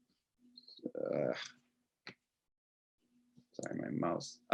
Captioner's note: groans